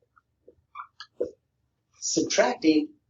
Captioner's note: marker squeaking